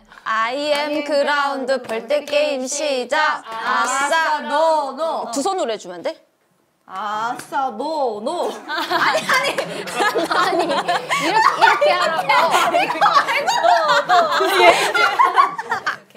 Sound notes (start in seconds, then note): 10.2 laughing